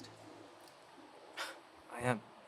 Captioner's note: Brandon scoffs